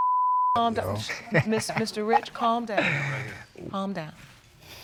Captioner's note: laughing